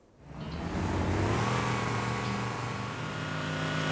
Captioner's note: Warthog Revving